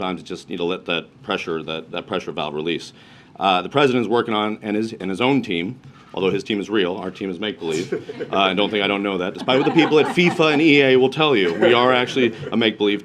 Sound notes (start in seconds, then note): 7.8 laughter